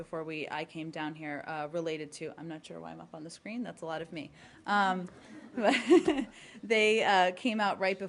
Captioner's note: laughter